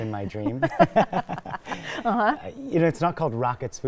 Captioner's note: laugh